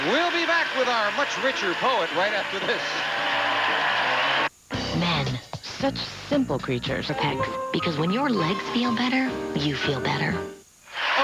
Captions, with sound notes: We'll be back with our much richer poet right after this. [audience cheering]